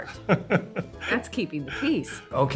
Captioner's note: laughs